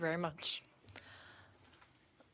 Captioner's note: speaking French